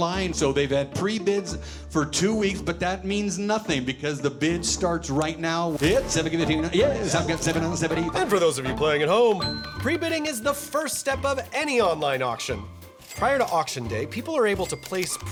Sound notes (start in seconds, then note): 5.8 rapid auctioneering